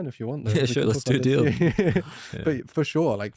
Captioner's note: laughs